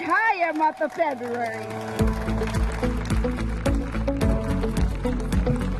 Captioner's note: audience applauding